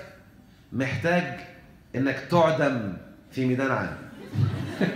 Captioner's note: laughs!